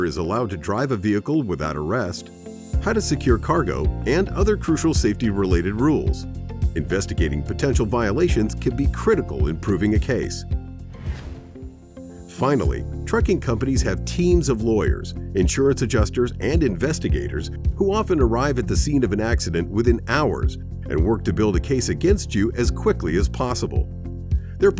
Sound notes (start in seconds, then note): 10.9 air whooshes